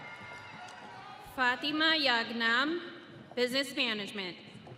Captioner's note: audience cheering